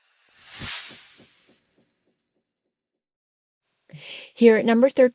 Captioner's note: sound effect